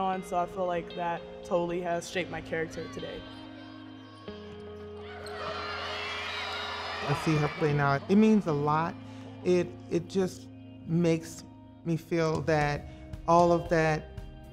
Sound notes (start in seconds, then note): 5.2 crowd cheers; 5.2 players shout